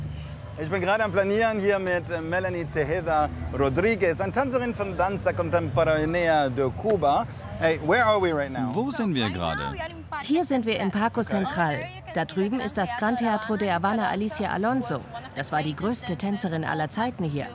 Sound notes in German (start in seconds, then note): 7.3 englisch